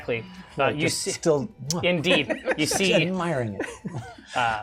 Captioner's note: kissing sound